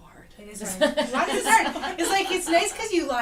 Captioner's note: laughs